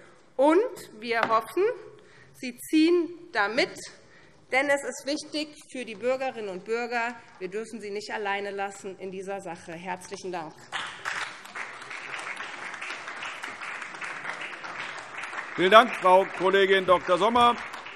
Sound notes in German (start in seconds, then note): 10.6 Beifall SPD